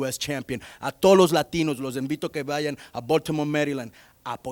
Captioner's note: speaking in Spanish